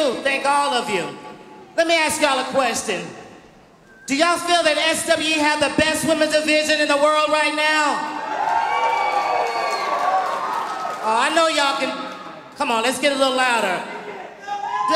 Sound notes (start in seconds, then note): 8.2 audience cheering